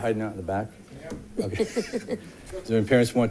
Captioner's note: laughs